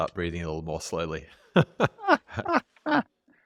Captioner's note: laughter